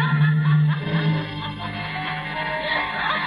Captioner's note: woman laughing